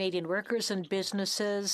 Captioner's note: speaking French